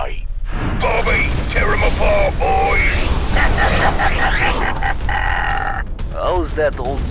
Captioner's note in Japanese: 嘲笑